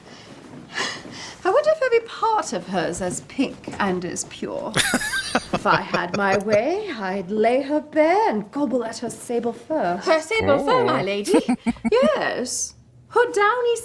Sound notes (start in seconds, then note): 4.7 laughing; 11.1 chuckling